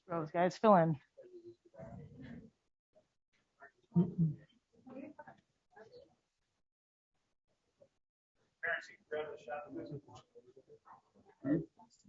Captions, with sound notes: Go guys, fill in. (background chatter)